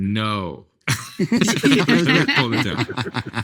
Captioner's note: group laughing